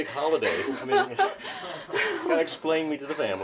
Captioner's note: laughs